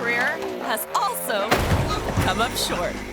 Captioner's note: motorbike thuds; thuds